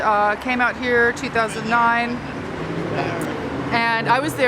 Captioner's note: murmuring